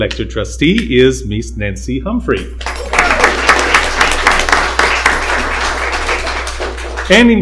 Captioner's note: applause